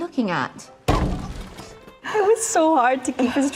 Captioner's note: window banging